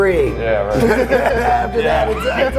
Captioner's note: laughing